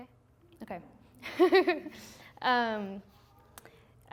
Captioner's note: laughing